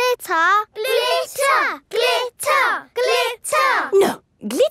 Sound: chanting

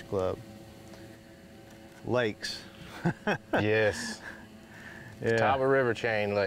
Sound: laughs

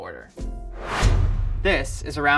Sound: whooshing

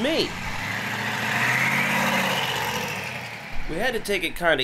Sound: engine humming

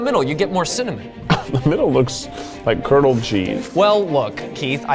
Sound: laughing

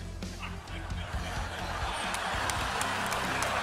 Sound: laughing

